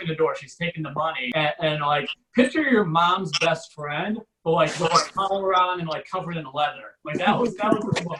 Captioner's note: audience Laughs